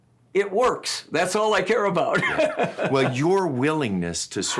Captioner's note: laughs